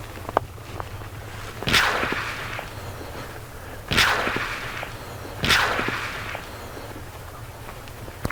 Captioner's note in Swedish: Pistolskott